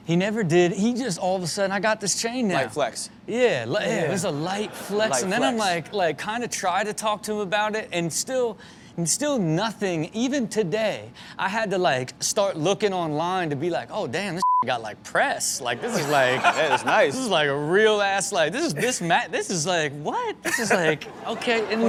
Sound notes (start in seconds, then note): 3.8 crowd laughs; 15.7 crowd laughs; 20.4 Steelo laughs